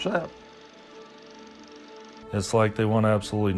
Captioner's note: sound of projector